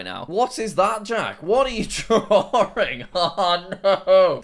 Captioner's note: laughs